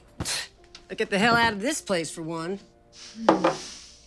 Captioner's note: scoffs